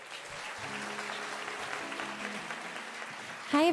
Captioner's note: applause